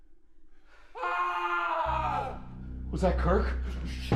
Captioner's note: screaming